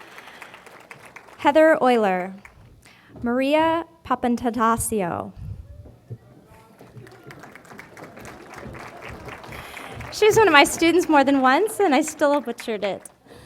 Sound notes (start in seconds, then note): 6.8 applause